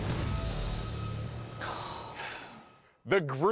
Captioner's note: sighing